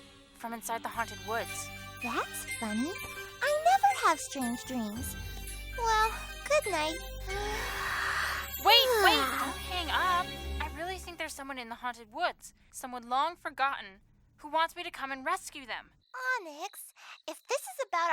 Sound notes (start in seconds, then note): 7.3 yawns